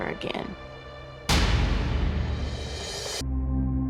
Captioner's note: dramatic thud; serious music